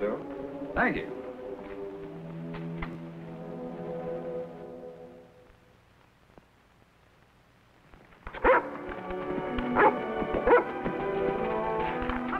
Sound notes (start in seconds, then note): 8.4 dog barks